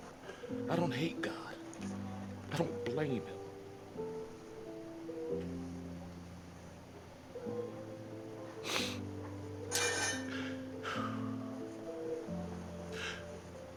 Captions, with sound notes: "I don't hate God, I don't blame Him." (gentle music) (sobs)